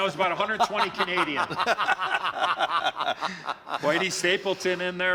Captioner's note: laughter